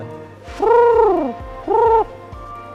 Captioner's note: making trilling sound